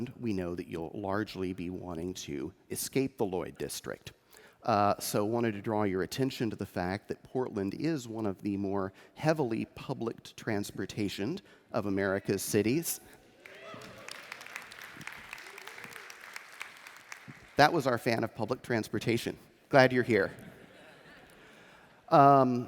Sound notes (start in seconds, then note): 14.9 applause; 20.3 laughter